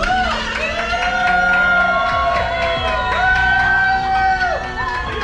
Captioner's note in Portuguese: Ovação